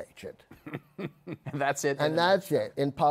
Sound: chuckles

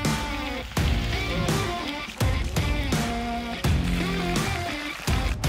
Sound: meat sizzling

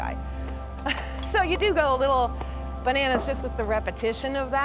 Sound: chuckling

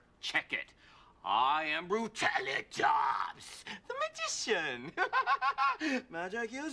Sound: laughs

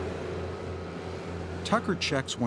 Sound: truck engine hums

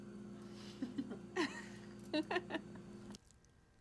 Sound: both laugh

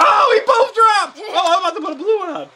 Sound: laughs

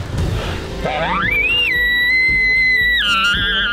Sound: Shooter bugling

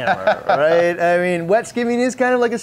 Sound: laughter

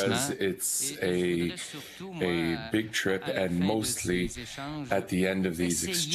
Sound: speaking French

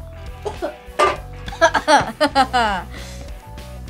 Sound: laughing

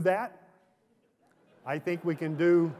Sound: laughter

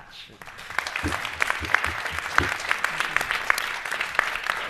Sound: crowd applauding

